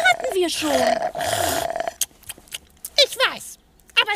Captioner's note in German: schlürft